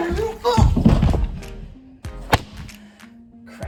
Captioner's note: sounds and thud of falling